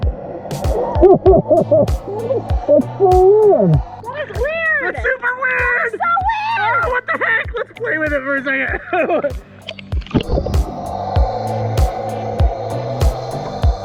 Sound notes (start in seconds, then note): 3.8 laughs; 11.1 techno music